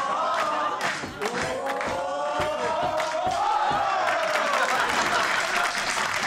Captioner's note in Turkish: Hep bir ağızdan; Alkış sesleri